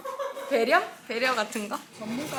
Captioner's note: haha